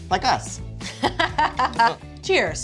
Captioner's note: laughing